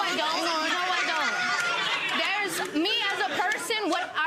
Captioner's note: audience laughing